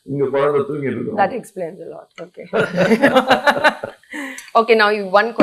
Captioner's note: laughining